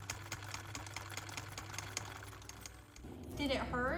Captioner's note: typewriter keys clack